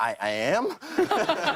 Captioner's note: laughter